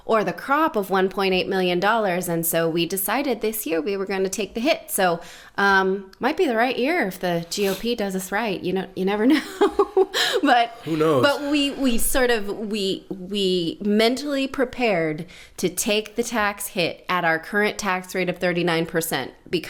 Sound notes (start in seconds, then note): 10.7 laughs; 10.7 sighs